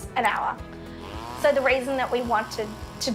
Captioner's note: weed trimmer buzzing